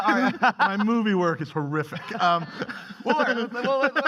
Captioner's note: laughing